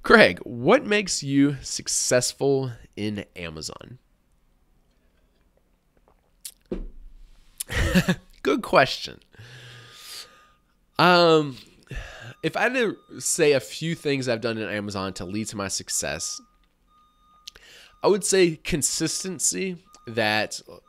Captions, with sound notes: "Greg, what makes you so successful in Amazon?" (laughing) Good question. If I had to say a few things I've done in Amazon to lead to my success I would say consistency that...